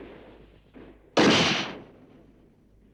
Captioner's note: gunshot